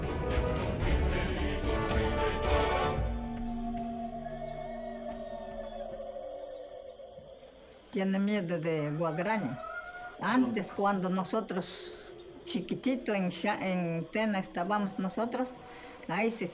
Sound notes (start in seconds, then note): 4.4 cock crows; 8.1 speaking in foreign language